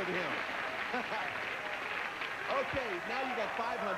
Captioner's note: audience applauding